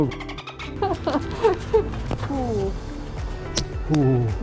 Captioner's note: смеётся